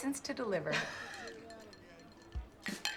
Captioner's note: clinking